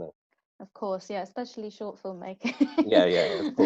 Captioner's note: laughs